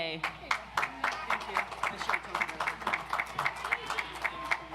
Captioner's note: audience applauds